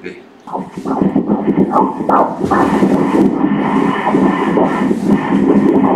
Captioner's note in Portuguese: batimentos cardíacos